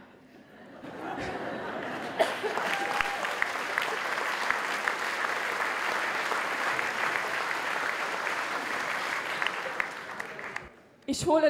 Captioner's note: applause